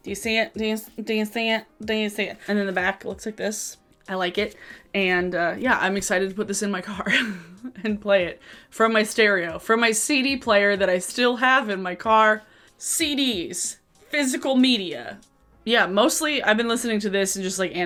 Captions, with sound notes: Do you see it? Do you see it? Do you see it? And in the back looks like this, I like it. And yeah, I'm excited to put this in my car (laughs) and play it from my stereo, from my CD player that I still have in my car. CDs, physical media. Yeah, mostly I've been listening to this and just like